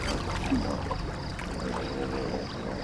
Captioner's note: water splashing